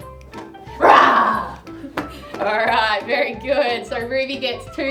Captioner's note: roaring